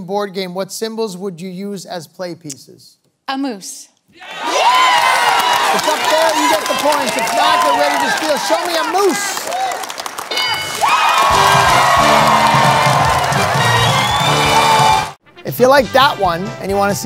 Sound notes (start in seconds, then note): 4.3 cheers; 10.3 bell dings; 11.2 wild cheering